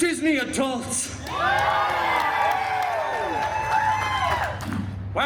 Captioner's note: guests cheering and applauding